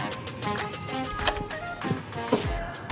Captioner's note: door lock beeps